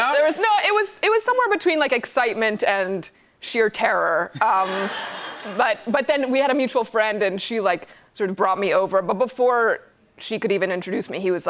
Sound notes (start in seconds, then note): 4.4 laughter